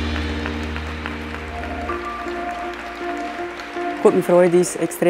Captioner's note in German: Applaus